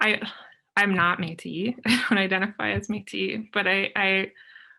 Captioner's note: chuckles